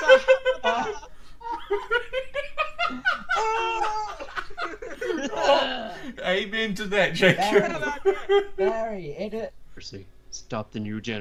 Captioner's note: laughter